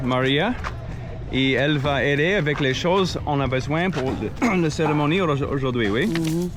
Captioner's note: speaking in foreign language